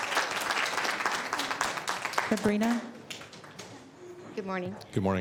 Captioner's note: applause